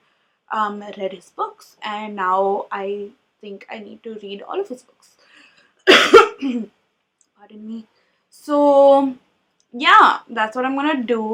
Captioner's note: coughs